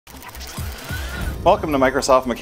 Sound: parts whirling

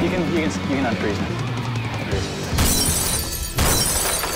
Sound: glass Smashing

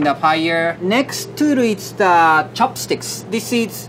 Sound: text chiming

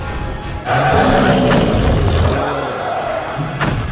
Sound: roaring

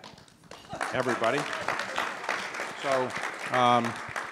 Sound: audience clapping

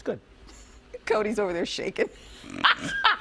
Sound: laughter

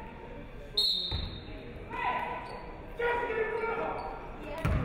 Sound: referee whistles

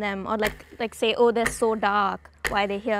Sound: clock ticks

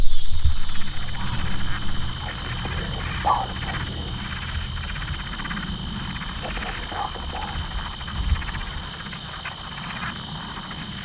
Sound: locust humming

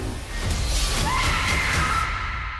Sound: screams

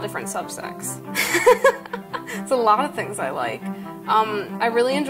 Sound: laughs

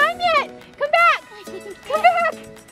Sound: giggling

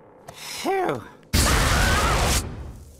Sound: screaming

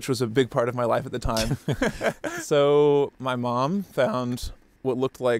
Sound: both laughing

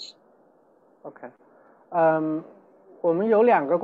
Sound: Mandarin

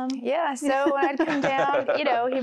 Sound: laughter

